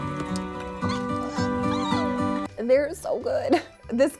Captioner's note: upbeat music; puppy whining